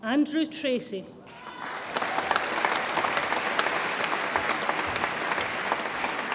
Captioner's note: audience applauds and cheers